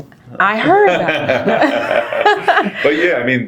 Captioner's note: laughing